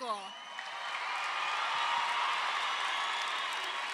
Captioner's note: crowd cheers